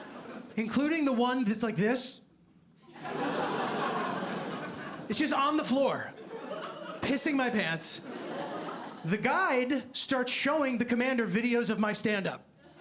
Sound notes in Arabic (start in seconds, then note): 2.9 ضحك